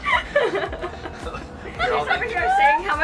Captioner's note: laughing